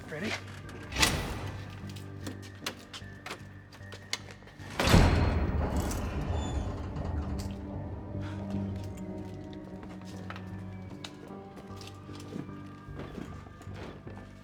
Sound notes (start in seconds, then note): 5.0 door clanks and squeaks; 10.7 intense music continues